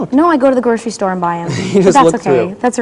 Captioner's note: laughs